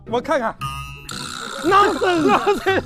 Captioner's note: haha